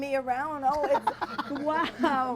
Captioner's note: laughing